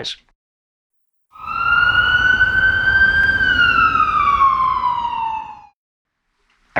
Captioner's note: siren